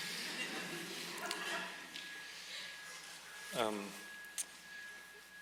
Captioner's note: audience laughs